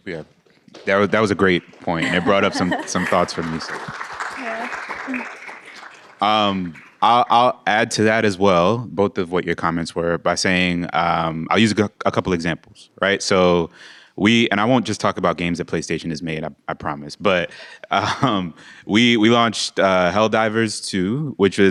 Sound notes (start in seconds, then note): 7.3 applause